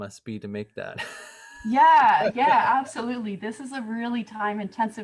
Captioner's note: laughter